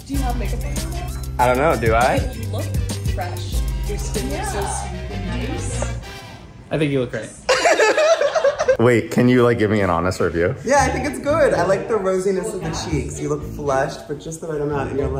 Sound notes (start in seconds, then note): 7.5 staffers laughs